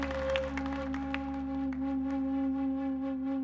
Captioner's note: horn tooting